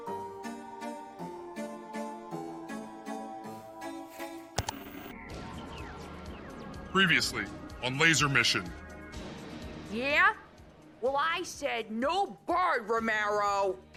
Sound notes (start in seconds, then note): 4.6 laser sounds; 4.6 static; 4.6 ka-chunk